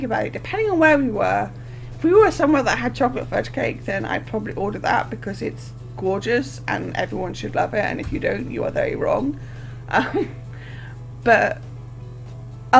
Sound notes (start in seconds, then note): 9.9 laughing